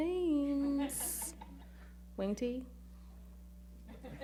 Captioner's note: chuckling